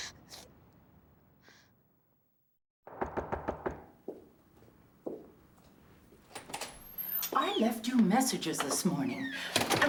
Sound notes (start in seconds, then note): 2.9 knocking at door